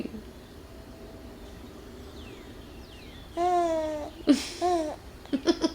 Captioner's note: cooing